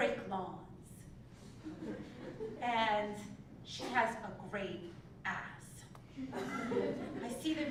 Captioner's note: laugh